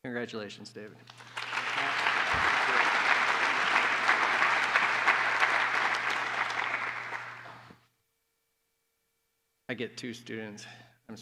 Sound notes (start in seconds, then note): 1.0 applause